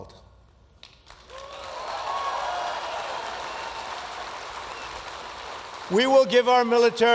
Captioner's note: applause